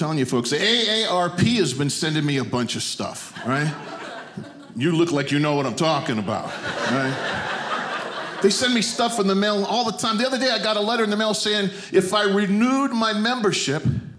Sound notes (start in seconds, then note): 6.1 audience laughing